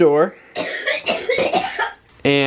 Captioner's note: coughing